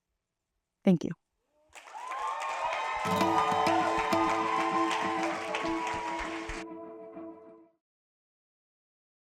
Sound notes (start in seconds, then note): 1.7 applause, cheering, and music